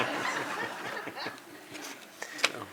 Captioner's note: laughter